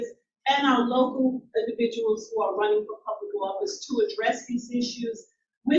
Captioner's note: none